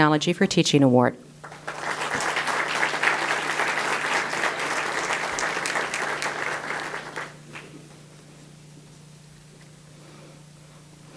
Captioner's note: audience applause